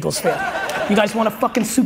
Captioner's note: audience laughs